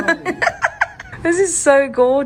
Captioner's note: laughs